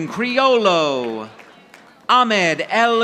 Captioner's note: audience applauding